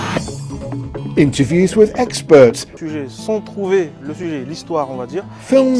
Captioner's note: speaks French